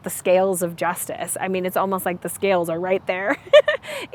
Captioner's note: laughs